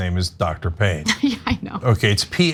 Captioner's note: laugh